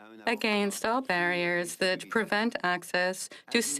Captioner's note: speaking French